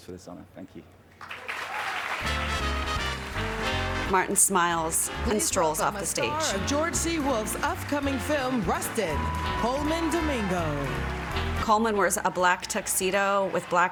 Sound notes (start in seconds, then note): 1.1 applause